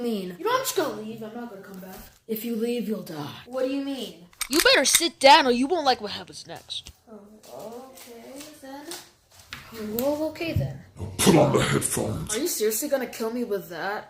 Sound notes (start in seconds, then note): 4.3 gun Cocks; 10.9 deep Voice